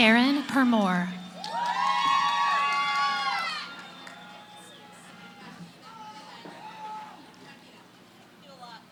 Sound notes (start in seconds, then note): 1.1 cheering; 3.7 background conversations